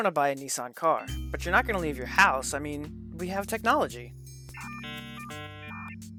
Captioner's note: dial up sound